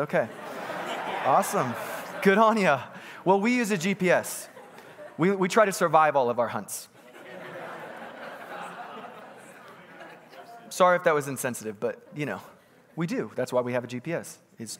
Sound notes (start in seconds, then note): 0.2 congregants laughing